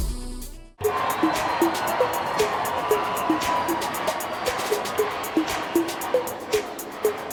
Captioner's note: upbeat music; crowd cheering